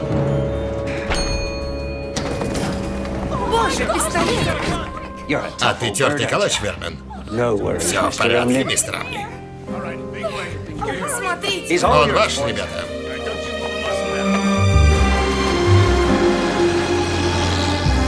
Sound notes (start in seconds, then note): 0.0 dings